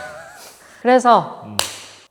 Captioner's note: clap